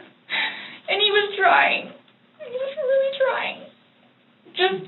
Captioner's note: sobbing